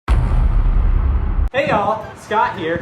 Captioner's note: heavy thud